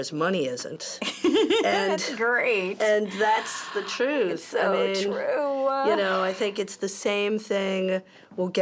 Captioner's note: laughs